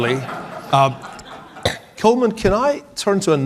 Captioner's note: audience laughing